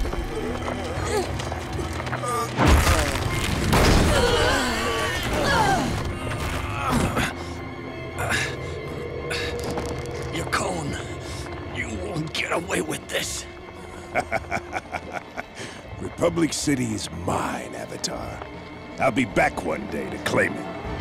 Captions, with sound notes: [groaning] [groaning] Yakone, you won't get away with this. [laughing] Republic City's mine, Avatar. I'll be back one day to claim it.